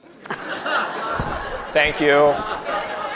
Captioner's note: audience laughing